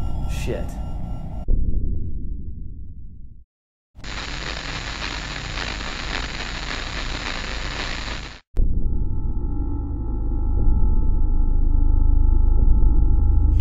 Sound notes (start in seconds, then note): 4.0 audio static; 8.7 ambient music